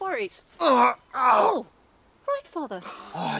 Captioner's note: Ander groaning